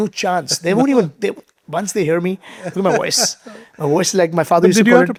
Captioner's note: chuckling